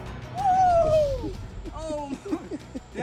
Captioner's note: intense music; shrieks